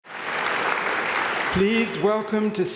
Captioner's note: applause